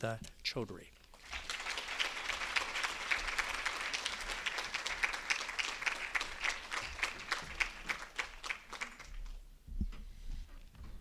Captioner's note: applause